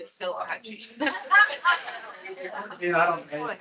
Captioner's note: attendees laughing